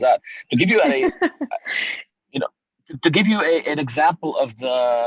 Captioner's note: laughs